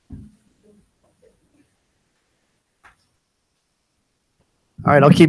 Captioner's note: attendees chattering